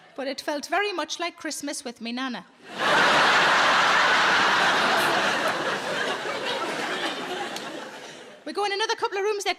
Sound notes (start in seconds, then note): 2.6 audience laughing